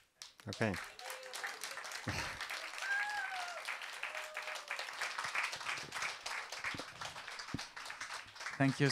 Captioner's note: aplause